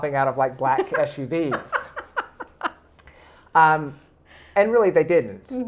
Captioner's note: laughing